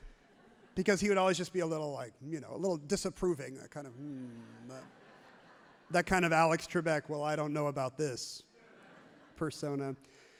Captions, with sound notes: Because he would always just be a little like, you know, a little disapproving. That kind of, "Hmm", [audience laughs happily] that kind of Alex Trebek. Well, I don't know about this [crowd laughs happily] persona.